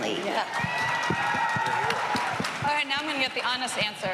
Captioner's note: cheering and applause